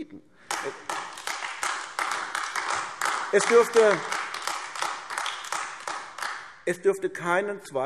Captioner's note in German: Beifall AfD